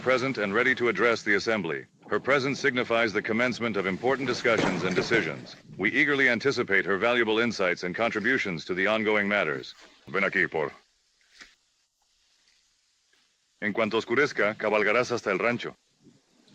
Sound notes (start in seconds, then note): 4.0 thud